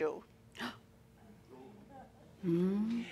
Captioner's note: gasps